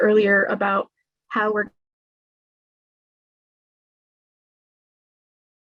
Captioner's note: no sound